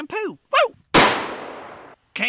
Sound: gun fires

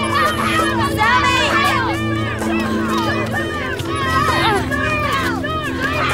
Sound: grunts

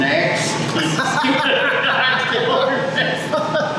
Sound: laughing

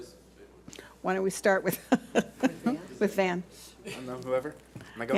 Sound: laughs

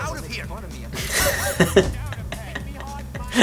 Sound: laughs

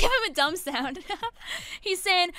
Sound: laughs

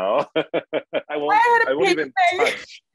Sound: laughing

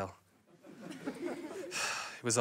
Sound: sighs

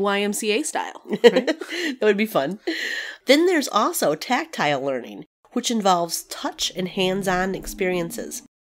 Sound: laugh

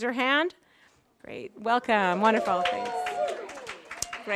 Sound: applause

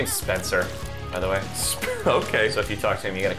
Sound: wheeze

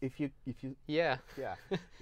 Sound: laughs

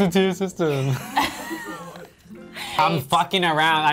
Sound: all laughing

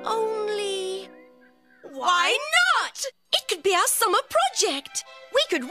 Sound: both say together

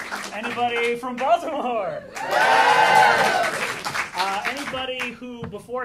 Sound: a little clapping; a lot of clapping

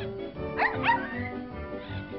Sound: bark

